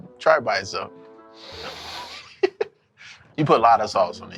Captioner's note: laughs